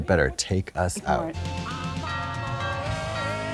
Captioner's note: doorbell ringing